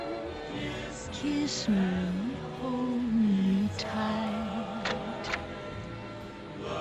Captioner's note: door opens